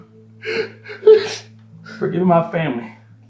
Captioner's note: sobs